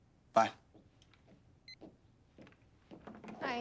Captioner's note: footstep